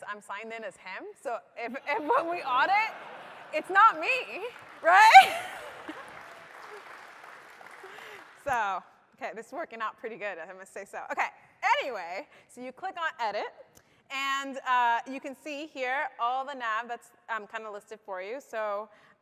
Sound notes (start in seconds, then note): 8.0 applause